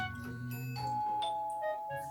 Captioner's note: the doorbell rings🔔